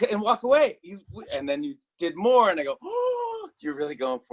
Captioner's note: gasps